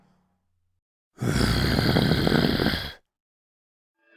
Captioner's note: Hopper growls